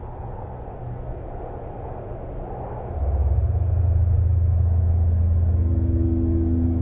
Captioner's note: whooshing wind; ethereal tones